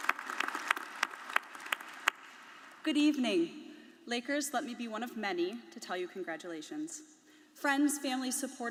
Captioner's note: applause